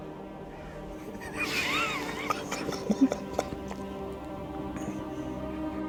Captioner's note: Russell and Hanee chuckling